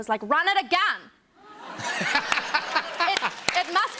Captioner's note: laughter and applause